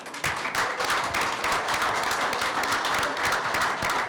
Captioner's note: applause